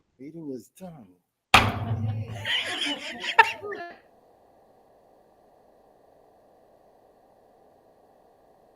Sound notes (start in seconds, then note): 1.5 gavel taps; 2.0 members laughs